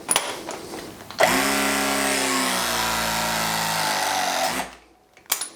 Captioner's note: press gun vibrates loudly